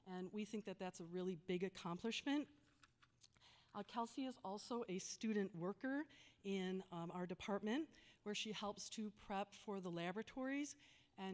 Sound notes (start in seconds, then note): none